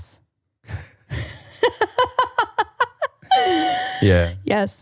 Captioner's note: laughing